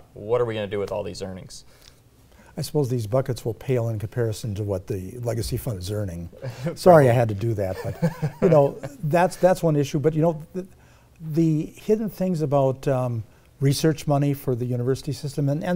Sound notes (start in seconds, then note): 7.6 laughs quietly